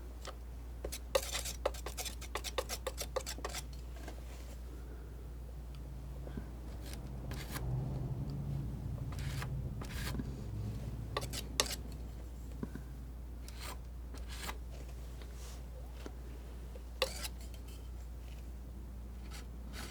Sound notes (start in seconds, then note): 0.9 scratching; 5.5 scratching